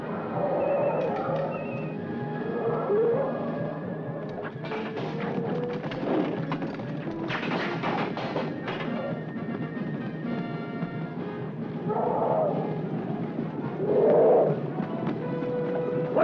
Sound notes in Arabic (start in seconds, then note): 0.2 هدير الفيل; 3.7 أصوات الأسلحة; 3.7 موسيقى درامية; 11.7 نعيق الفيل